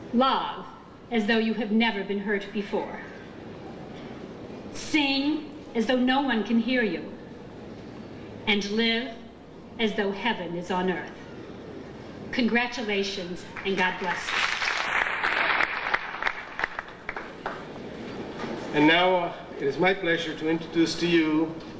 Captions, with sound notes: Love as though you have never been hurt before. Sing as though no one can hear you. And live as though heaven is on earth. Congratulations, and God bless us. (audience applauding) - And now it is my pleasure to introduce to you